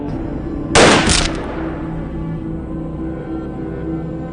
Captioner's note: guns firing; melodic haunting music